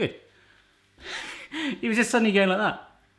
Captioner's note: laughs